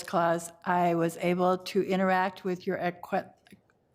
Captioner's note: stutters